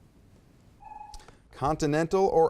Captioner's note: timer buzzes